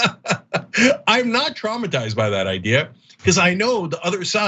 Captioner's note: laugh